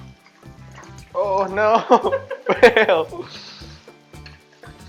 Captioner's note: that's laughing at the back